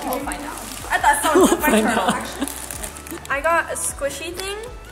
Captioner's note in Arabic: يضحك